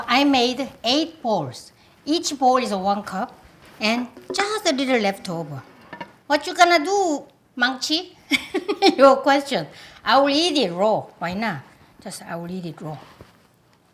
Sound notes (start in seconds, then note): 8.4 laughing